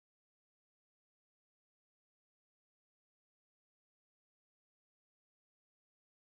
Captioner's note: none